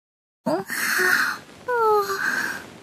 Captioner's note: Yawn